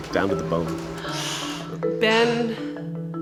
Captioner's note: pained gasp